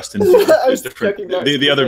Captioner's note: laughing